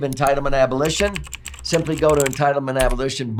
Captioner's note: keys clacking